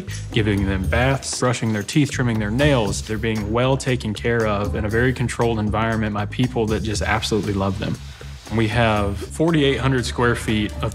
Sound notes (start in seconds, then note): 7.4 dryer blowing; 9.7 spirited orchestral music